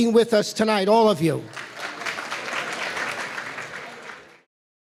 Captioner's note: applause